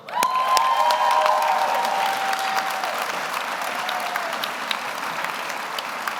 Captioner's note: audience applauds; audience cheers